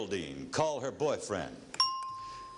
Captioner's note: ringing bell